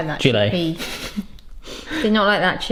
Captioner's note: laughs